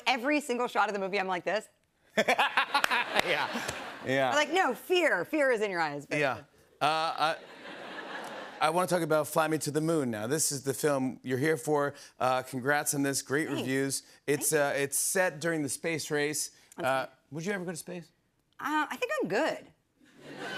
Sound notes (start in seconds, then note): 2.1 laughter; 7.3 laughter; 20.1 laughter